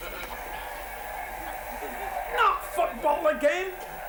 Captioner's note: television audience cheers